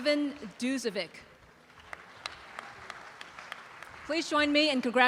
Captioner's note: audience applause